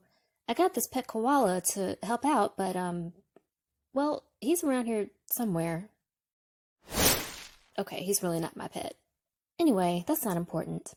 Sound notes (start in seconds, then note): 6.9 sound of leaves whooshing